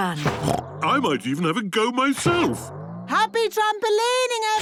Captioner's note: snorts